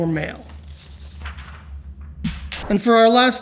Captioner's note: paper rustles